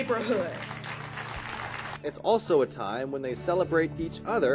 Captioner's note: applause